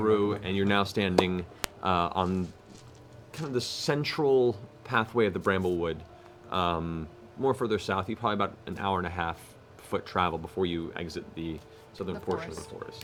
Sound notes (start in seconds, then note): none